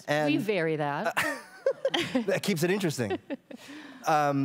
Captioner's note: laughs